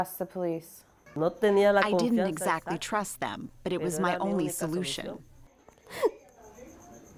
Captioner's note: through translator